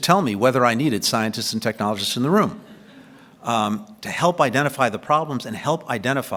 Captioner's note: laughter